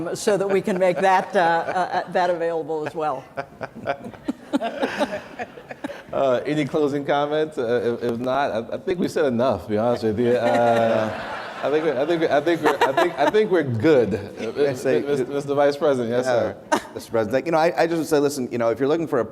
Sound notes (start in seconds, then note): 4.5 laughter; 10.2 audience laughter